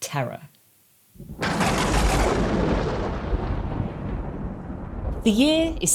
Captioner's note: thunder clap sound effect